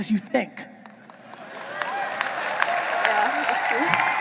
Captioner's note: audience applauding